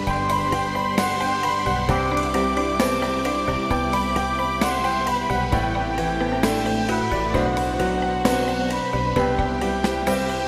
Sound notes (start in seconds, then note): none